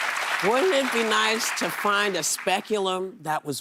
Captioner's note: applause